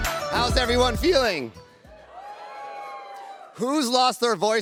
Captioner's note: cheers